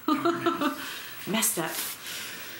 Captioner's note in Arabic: يضحك